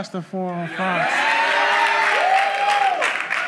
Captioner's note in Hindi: भीड़ द्वारा जय जयकार करते हुए